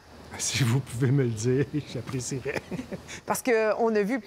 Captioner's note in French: rires